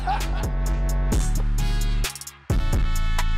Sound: laughter

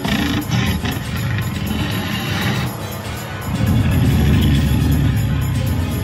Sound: tyrannosaurus growling

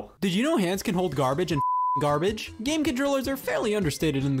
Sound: beeping

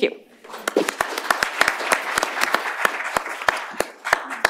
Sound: applause

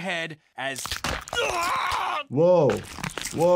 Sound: bones crunch

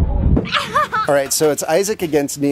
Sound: laughing

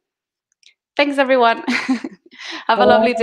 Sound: chuckling

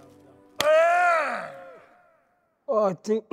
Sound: person grunting

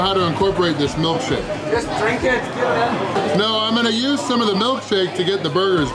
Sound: crowd

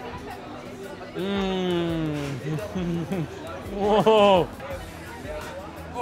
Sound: laughs

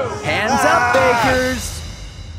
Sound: yelling

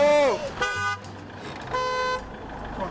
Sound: car horn

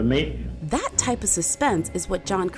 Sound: voiceover

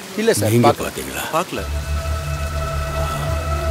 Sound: traffic sounds

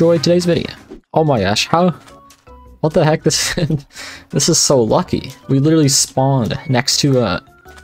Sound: laughing

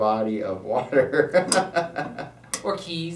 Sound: laughs

